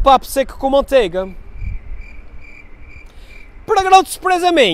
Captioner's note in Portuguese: som de grilos